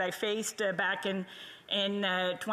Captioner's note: speaking French